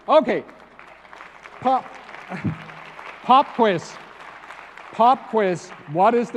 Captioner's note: applause